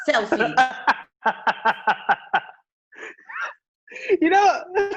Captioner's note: laughs